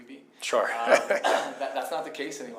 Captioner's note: laughs